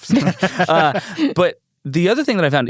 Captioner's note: everyone laughing